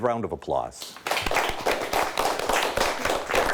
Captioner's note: clapping